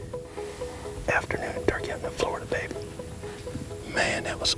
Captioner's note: whispering